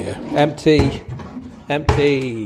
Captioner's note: drawers sliding open and closed